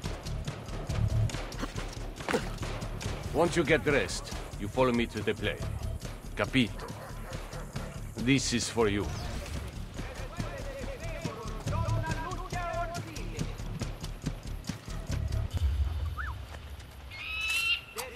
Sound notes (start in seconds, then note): 16.1 Ezio whistles; 17.0 eagle screech